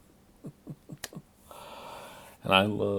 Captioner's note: chuckles